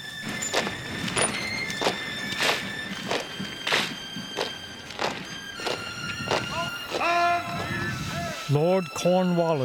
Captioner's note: footsteps loudly fall